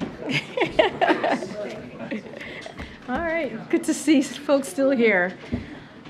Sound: laughs

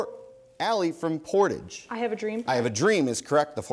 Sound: bell dings

